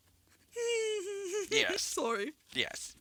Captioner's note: stifles laughter